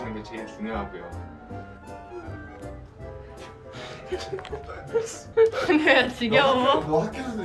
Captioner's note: yawns